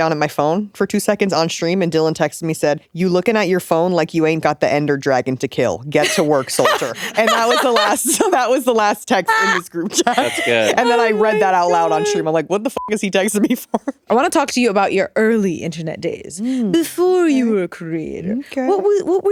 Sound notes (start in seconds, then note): 6.0 chuckling; 12.8 beep